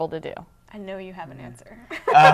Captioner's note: laughing